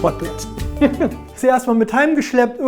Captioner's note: he laughs